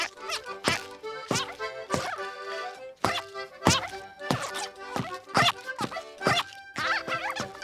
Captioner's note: squeaking